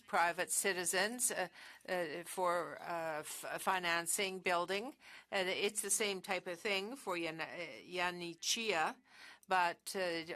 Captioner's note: speaking French